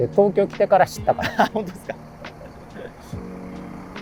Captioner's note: laughing